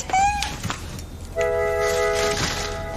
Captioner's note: Scârțâie